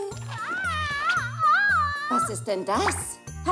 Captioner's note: screaming